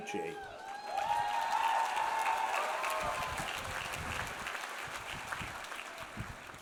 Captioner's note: audience cheers; audience applauds